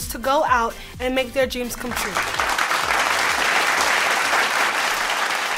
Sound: audience applause

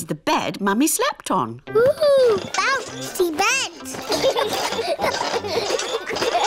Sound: children laugh

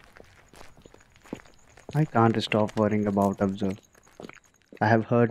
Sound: sound of cicadas chirping

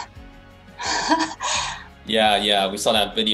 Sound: laughs

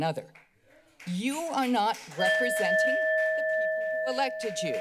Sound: applause; timer sound

